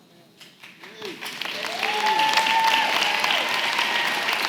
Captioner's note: cheering & applause